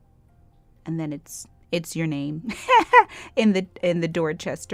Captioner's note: laughs